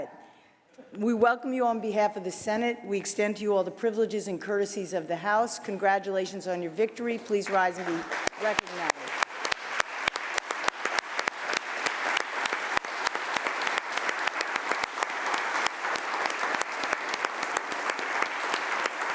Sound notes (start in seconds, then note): 7.1 applause